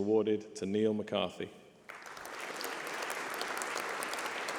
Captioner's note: applause